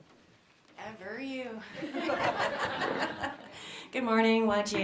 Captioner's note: laughing